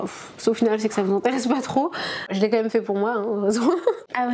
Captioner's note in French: rires